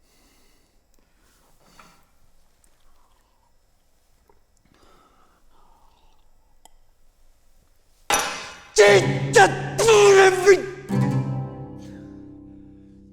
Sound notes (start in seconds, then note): 0.0 heavy breathing; 8.9 stutters angrily